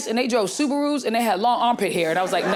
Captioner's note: audience laughing